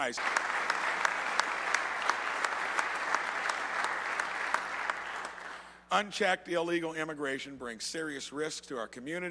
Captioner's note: applause